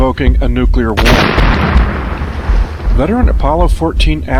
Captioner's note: bomb explodes